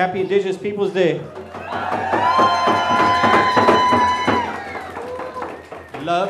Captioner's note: cheers and applause